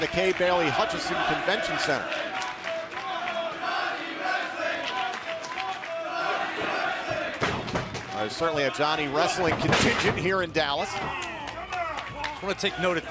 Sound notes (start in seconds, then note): 8.0 fans chanting